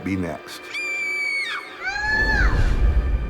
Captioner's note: Lily screams